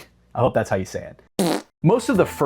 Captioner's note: epic le funny fart sound